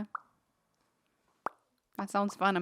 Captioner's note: making popping noises